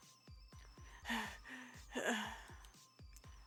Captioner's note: heavy breathing